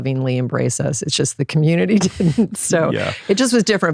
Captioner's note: laughs